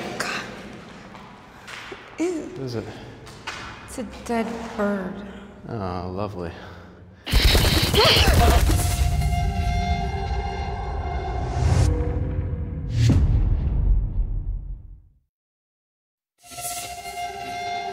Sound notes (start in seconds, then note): 7.3 screeching, wings flapping; 7.9 gasps